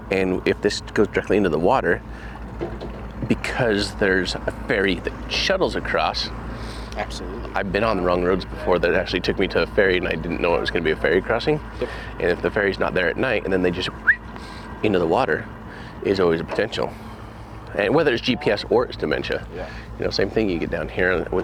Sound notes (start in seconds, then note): 14.0 whistles